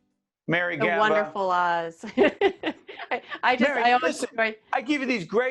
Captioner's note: laughing